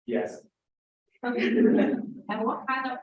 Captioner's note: laughter